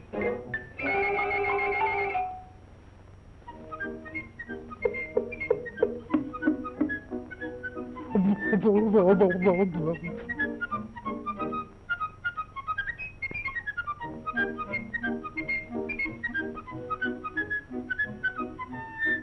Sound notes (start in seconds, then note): 3.5 cheerful music; 8.3 frightened whimpering